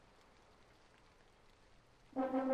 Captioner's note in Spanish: El sonido de la lluvia se desvanece